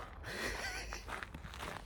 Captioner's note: laughing